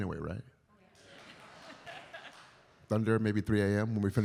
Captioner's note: audience laughs